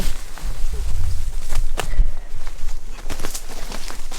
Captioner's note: leaves rustling